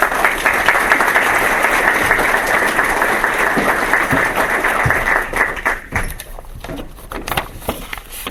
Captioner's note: applause; papers rustling